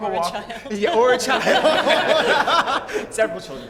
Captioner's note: laughter